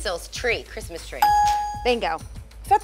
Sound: ding

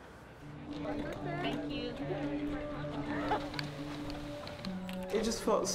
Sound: gentle music continues; helpers chattering

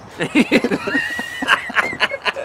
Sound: laughter

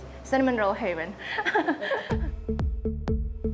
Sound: laughs

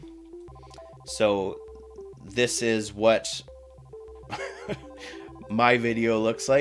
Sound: chuckle

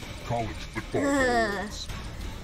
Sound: makes a noise of disgust

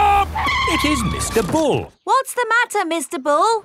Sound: tires screeching

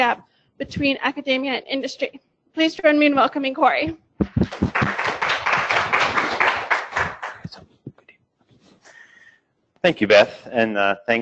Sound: applause

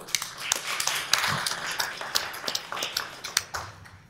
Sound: applause

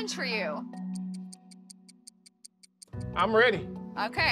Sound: clock ticks

